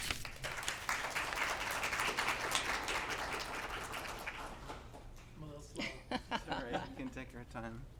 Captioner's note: applause